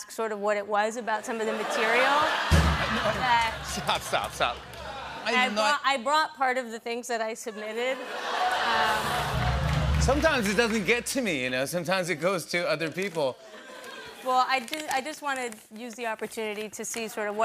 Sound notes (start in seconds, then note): 1.4 laughter; 2.4 drumroll; 7.6 laughter; 8.2 audience ohs